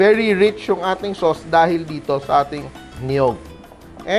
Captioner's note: sizzle